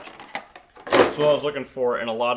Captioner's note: box thudding; packaging crinkling